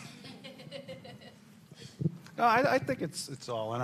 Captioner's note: laughter